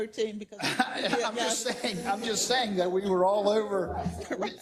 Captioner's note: laugh